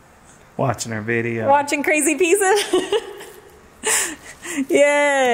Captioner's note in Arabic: يضحك